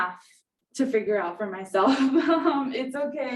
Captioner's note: chuckles